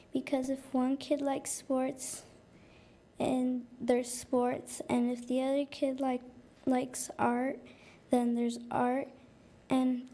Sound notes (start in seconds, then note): none